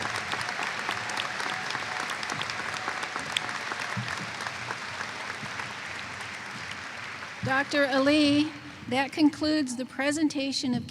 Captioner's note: applause